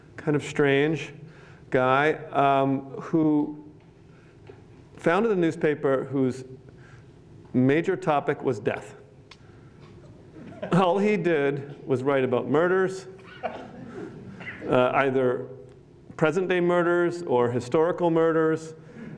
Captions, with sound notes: kind of strange guy who founded the newspaper, whose major topic was death. All he did was write about murders, [LAUGHTER] either present day murders or historical murders.